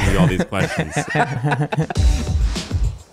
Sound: laughing

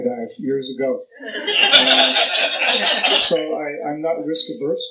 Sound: laughter

